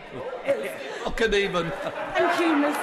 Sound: laughter

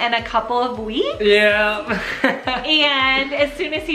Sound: laughs

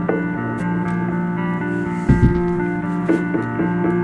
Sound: tennis shoes scuffs

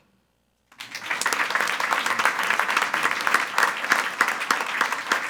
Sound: attendees applauding

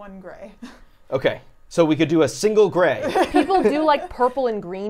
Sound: laughs

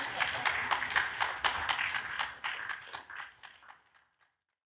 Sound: audience applauds

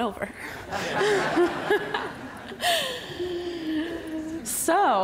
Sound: audience laughs

